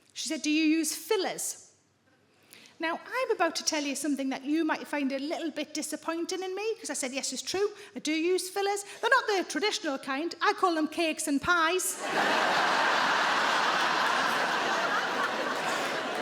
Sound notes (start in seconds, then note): 11.9 audience laughing